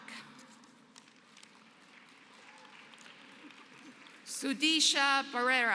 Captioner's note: applause